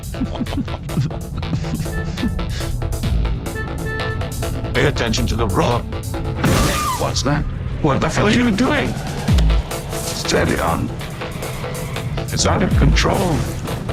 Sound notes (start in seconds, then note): 1.8 car beeping; 6.3 crashing sound